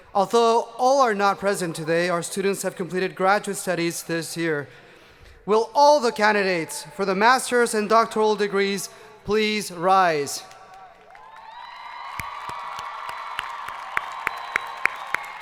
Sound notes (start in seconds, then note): 10.7 audience applauding